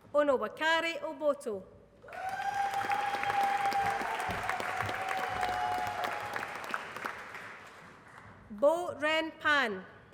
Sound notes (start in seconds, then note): 2.0 applause